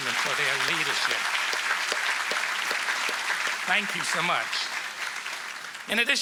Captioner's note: applause